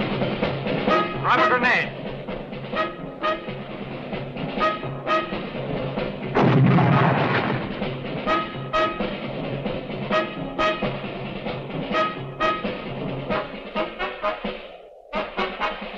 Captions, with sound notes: Drop a grenade. (explosion booming)